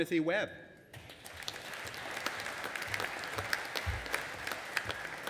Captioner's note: audience applauding